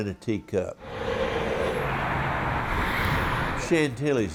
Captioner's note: traffic sounds